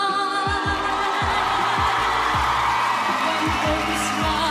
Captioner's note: crowd cheering